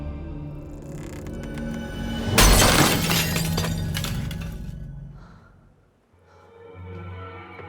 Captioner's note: creepy, haunting music; glass shatters